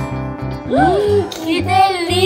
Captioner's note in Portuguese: suspiro surpreso